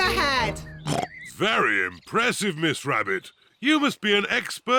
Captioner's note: oinks